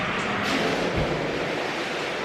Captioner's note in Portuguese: som de água espirrando